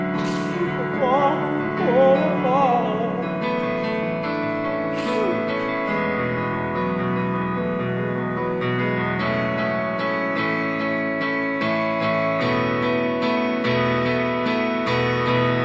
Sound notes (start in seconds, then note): 0.1 sniff; 4.8 sniff